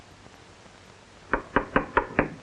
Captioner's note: knocking